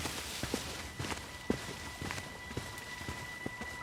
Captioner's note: footsteps departing